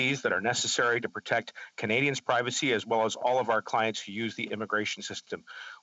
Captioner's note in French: voix de l'interprète